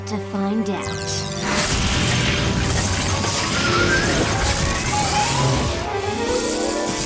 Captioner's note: zap